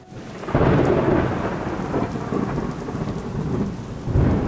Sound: thunder sounds

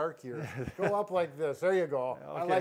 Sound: chuckles

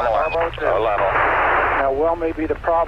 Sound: static

